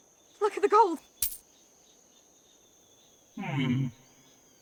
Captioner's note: coins clinking